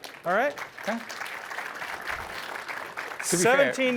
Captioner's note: applause